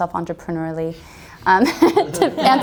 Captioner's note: group laughter